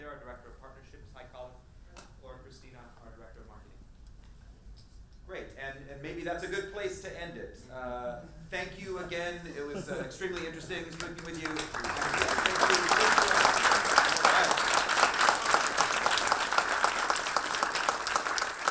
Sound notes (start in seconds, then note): 13.0 audience applause